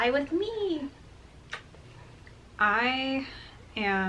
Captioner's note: kissing